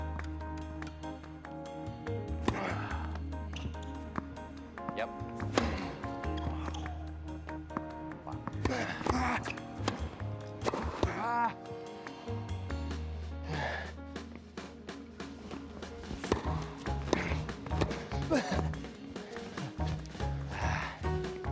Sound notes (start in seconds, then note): 0.0 ball bouncing; 0.3 racket tapping; 2.4 racket smacking; 2.5 Phillip grunting; 4.2 ball bouncing; 5.3 racket smacking; 5.9 Phillip grunting; 8.4 racket smacking; 8.4 Marshall grunting; 8.7 Marshall exhaling; 10.1 rackets smacking; 13.7 Phillip panting